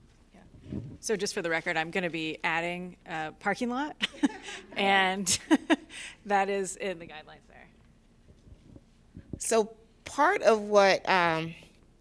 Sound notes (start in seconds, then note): 4.0 laughter